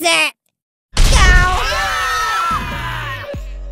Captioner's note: screaming